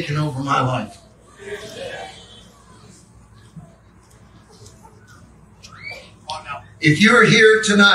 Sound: congregation amens

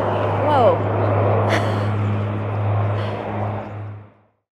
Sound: loud airplane flies above

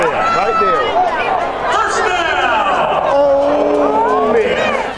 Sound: voiceover

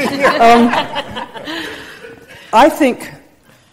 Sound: group laughing

